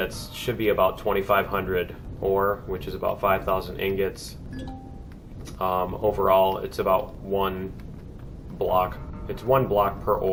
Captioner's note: ding